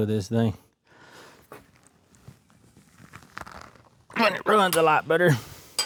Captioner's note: crunching